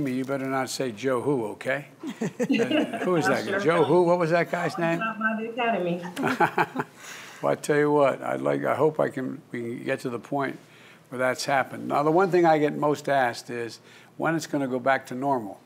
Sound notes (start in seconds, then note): 2.0 laughter; 6.1 laughs